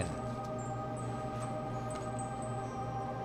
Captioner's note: gentle chiming